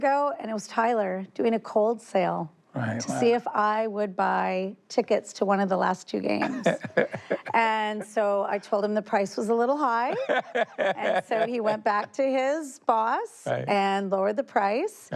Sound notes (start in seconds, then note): 6.4 laughing; 9.9 laughter